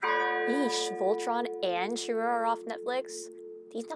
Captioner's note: funeral bell tolling